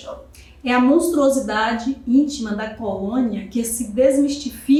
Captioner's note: speaking portuguese